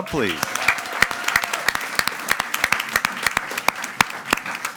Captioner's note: audience applauding